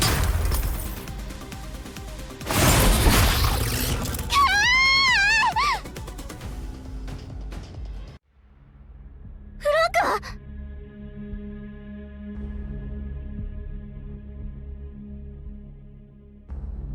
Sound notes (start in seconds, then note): none